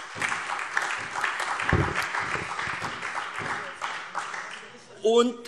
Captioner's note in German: Beifall SPD